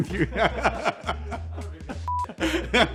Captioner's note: everyone laughs